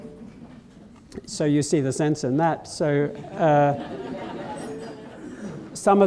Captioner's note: laughter